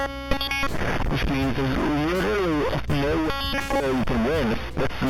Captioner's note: glitching noise